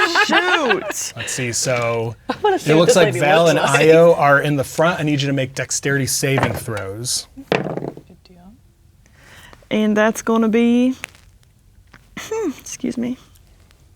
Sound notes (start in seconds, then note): 7.5 dice rolling